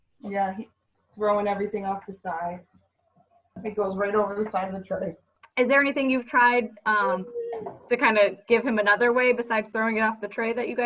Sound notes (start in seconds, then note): 7.0 vocalizes